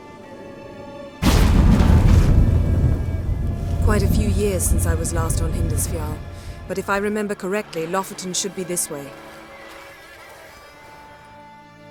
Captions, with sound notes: [portal rumbles] Quite a few years since I was last on Hindarsfjall... ... but if I remember correctly, Lofoten should be this way.